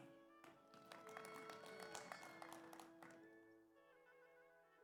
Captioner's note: audience applauds